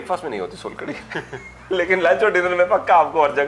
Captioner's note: laughter